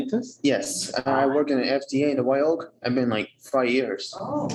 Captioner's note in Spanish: hablando inglés